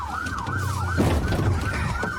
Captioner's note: bangs